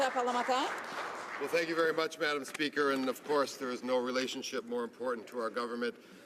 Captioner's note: some Applause